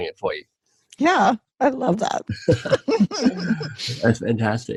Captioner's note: laughs